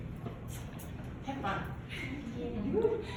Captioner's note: giggles